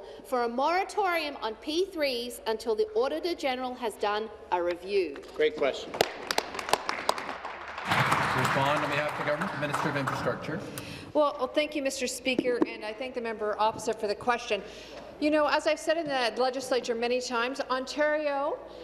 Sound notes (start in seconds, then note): 10.4 applause